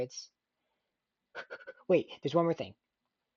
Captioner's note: panic breaths